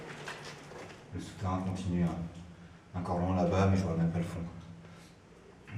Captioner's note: speaks French